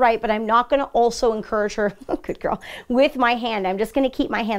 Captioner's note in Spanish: risas